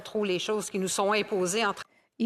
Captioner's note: speaking French